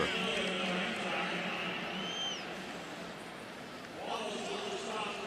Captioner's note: pa announcement